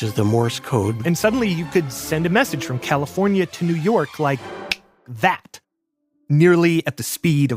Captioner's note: snaps fingers